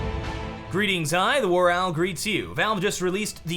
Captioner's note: in normal voice